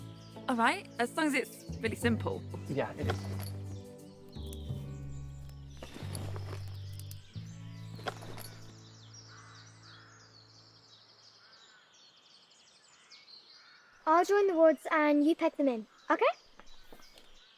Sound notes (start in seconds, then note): 4.8 gentle orchestral music continues; 7.5 birds chirping